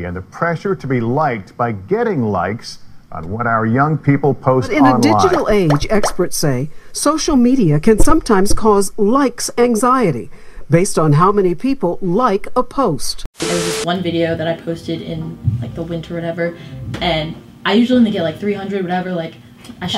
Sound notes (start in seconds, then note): 13.3 static hums